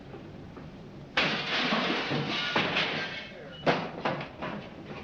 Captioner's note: glass shatters